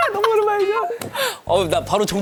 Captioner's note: call ends